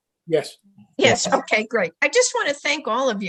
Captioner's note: speaking in the background